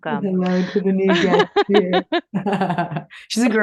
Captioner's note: laughs